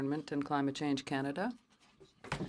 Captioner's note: speaking French